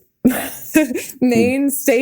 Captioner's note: Mikaela laughing